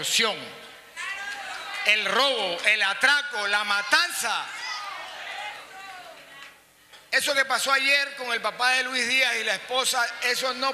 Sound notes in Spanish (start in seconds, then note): 5.5 aplausos